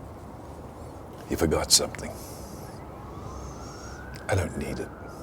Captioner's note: distant sirens wailing